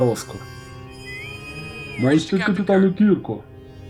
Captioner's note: intercom whistles